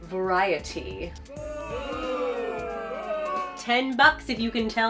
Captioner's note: crowd boo-ing